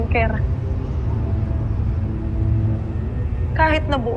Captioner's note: wind howling